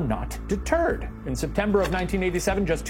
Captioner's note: slide projector clicks